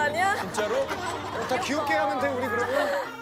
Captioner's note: hehehe